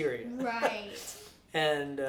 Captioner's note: laughs